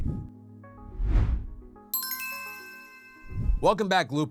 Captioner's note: gentle music; logo whooshing; bell chiming